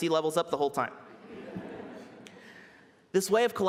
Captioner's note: laughter